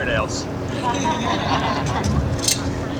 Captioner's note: laughter